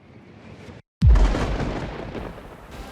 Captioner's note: explosion